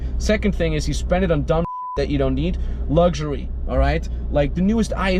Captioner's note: beep